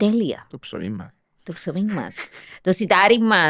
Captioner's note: he laughs